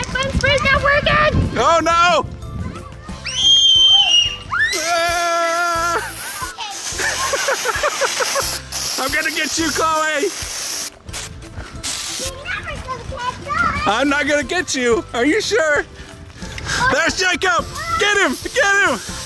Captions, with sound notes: My fun sprays not working! Oh-no! (everyone laughs and screams) I'm gonna get you, Chloe! You're never gonna catch us! I'm not gonna get you? Are you sure? There's Jacob. Get him! Get him!